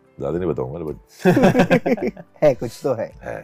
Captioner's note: laughs